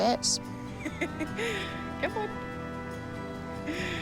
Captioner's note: laughs